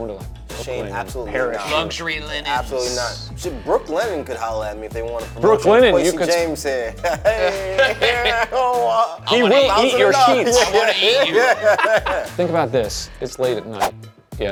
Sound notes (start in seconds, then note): 11.9 laughing